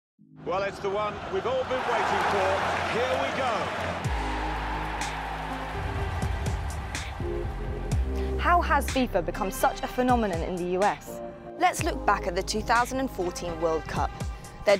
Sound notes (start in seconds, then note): 4.2 crowd cheering; 5.7 upbeat music